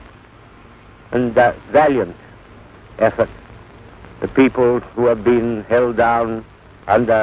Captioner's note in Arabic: صوت إنجليزي منطوق